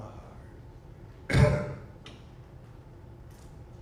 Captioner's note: coughs